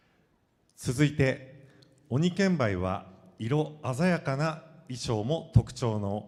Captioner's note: speaking foreign language